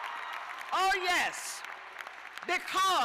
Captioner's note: cheers and applause